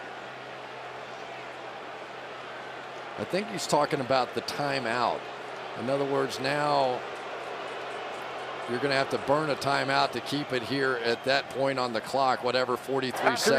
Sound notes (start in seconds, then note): 7.5 booing